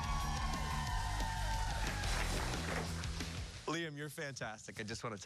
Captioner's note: cheers and applause